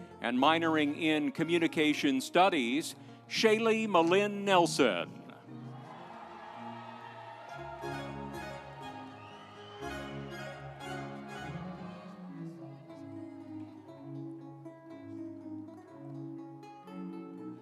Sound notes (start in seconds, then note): 5.6 audience cheering; 6.0 instrumental music